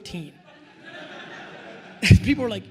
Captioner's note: attendees laughing